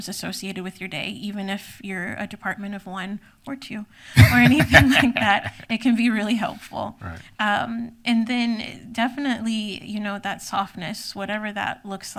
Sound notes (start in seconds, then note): 4.1 laughs